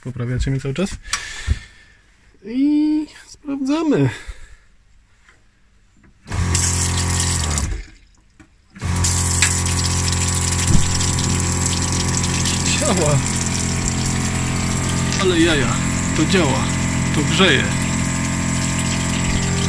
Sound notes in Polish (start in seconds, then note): 6.2 odgłos pompy wody